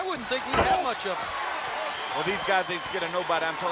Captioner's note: Hall grunting